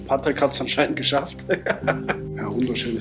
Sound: laugh

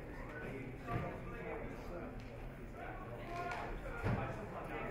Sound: audience chatter

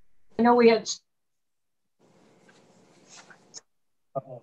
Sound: audio cuts out

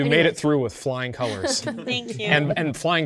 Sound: participants applauding

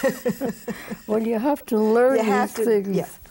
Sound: both laugh

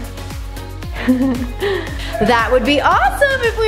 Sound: chuckling

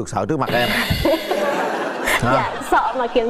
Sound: laughing

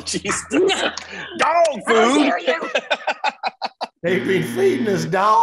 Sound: laughs

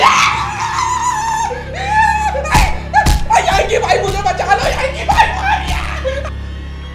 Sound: shouting

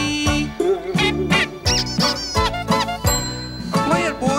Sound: boing; honks, squeaks, ding

